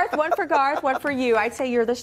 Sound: laughter

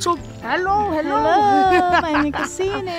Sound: laughing

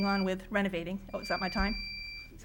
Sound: alarm beeping

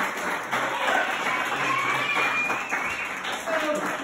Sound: clapclapclap

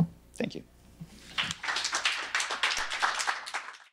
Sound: applause

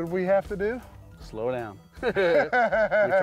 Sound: laughs

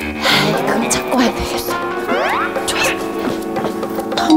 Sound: running

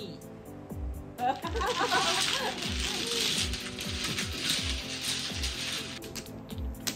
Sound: clacking mahjong tiles

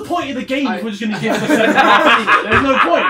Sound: all laughing

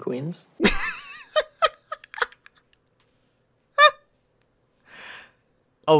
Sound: laughing

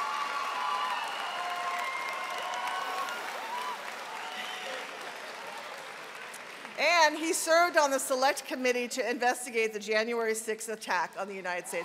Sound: cheering and applause

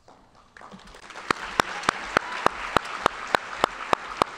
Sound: audience applauding

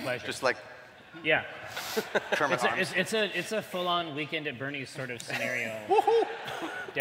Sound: laughter

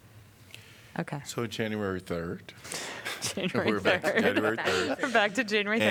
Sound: laughter

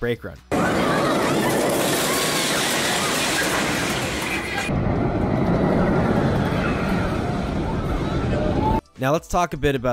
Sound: theme park sounds; crashing sound of brakes pulsing

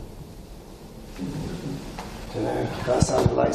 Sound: distant thuds

